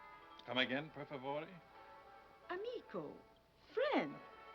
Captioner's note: speaking foreign language